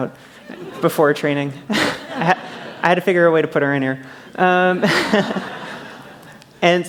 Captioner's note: laughter